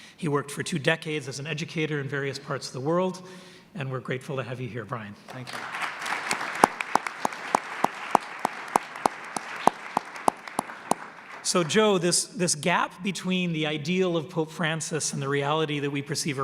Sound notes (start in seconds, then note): 8.9 applause